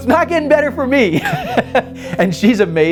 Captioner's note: laughs